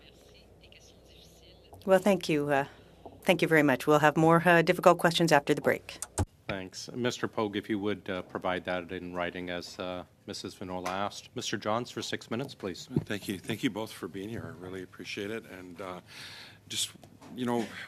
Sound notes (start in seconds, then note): 2.6 speaking french